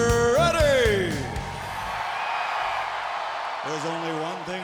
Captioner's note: crowd cheering